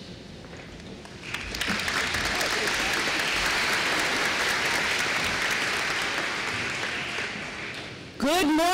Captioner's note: applause